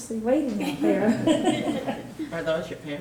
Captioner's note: chuckling